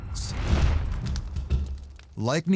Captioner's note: fire crackling